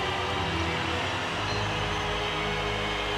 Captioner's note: crowd cheering